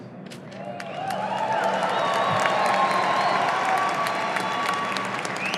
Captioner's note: audience cheering